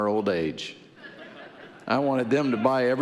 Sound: audience laughing

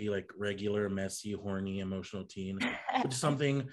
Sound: Hunter laughs

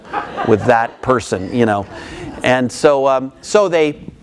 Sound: crowd laughs

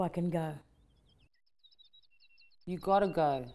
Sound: birds whistling

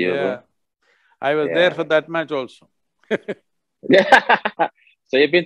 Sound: both laugh

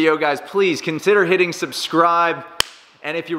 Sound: smacks

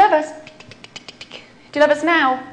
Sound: clicking

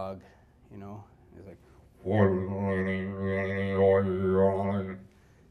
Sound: makes didgeridoo sounds

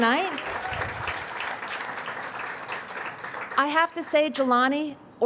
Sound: audience cheers and applauds

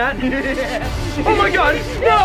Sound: leprechaun laughs

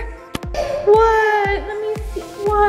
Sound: crying

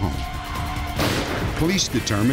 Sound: gunshot

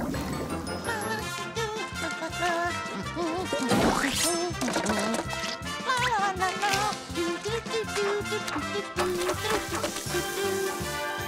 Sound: humming

